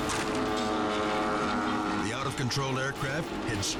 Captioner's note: plane engine revving